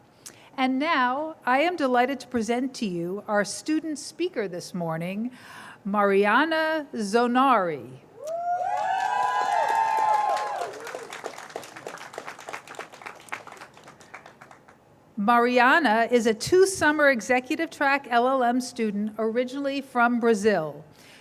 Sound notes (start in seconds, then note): 8.2 cheers, applause